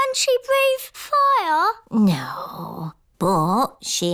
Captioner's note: none